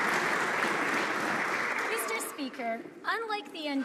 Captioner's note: some Applause